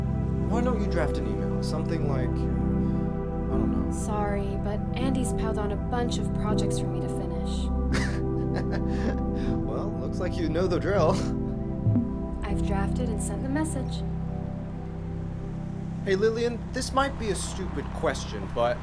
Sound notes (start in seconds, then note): 7.9 oliver chuckles; 12.2 soft chime